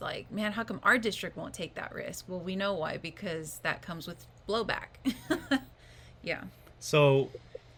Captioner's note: laughs